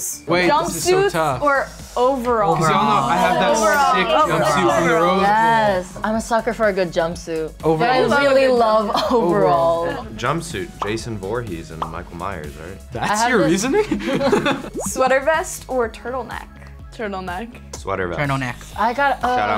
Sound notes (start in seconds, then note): 13.9 laughing